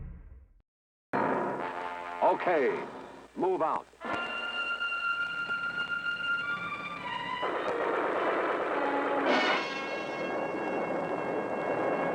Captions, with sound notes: - [Male Voice] Okay, move out. (explosions)